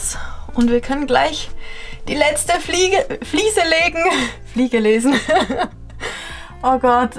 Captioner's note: laughter